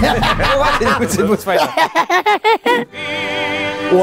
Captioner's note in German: Kläffende Laute, Lachen; Schräges Lachen